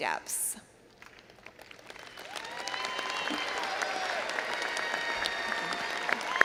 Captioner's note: all applauding and cheering